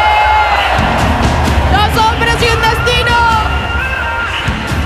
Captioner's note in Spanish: Ovación